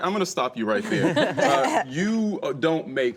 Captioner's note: laughing